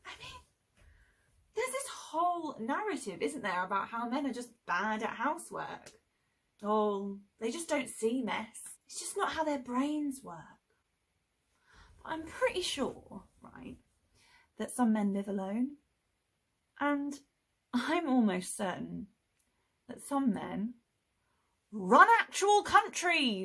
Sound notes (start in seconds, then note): 0.0 sarcastic; 5.9 sarcastic